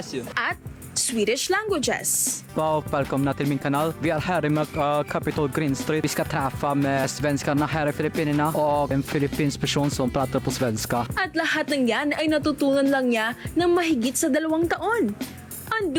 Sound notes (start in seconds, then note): 0.0 speaking Portuguese; 2.4 speaking Swedish